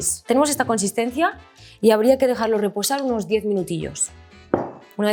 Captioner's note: speaks in Spanish